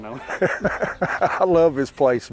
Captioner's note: hunters chuckling